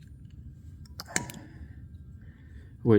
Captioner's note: metal clanking